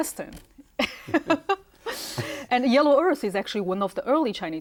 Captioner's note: laughs